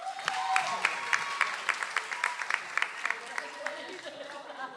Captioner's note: audience applauds